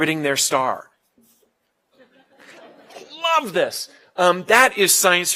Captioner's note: laugh